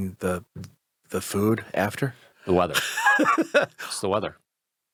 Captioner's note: laughs